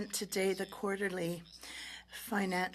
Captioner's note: speaking French